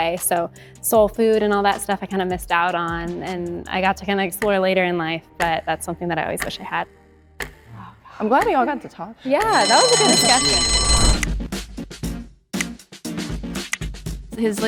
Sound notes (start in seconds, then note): 7.4 timer ticking; 9.4 timer rings; 11.8 upbeat music